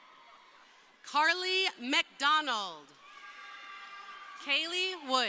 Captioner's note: crowd cheering